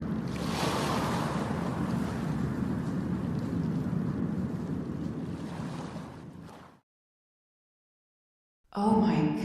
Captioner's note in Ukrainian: звуки хвиль